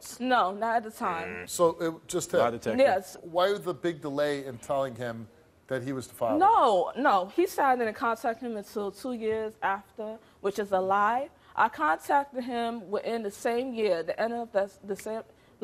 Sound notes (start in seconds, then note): none